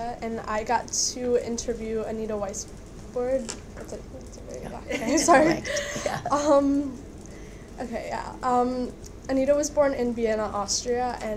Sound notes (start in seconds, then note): 4.7 laughing